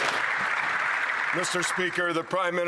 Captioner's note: some Applause